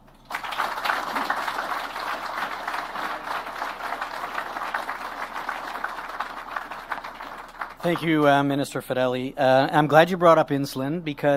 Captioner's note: applause